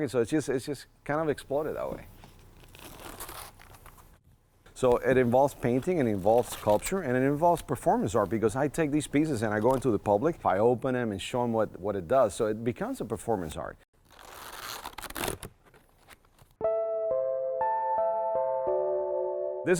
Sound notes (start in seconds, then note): 2.1 paper crinkling; 14.0 paper crinkling; 16.7 haunting chiming music